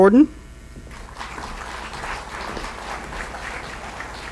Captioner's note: applause